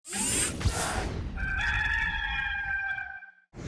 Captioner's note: air whooshing